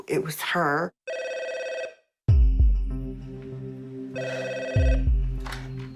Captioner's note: phone ringing